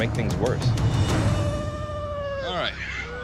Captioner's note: continues crying